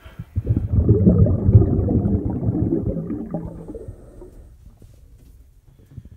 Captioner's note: drain Gurgling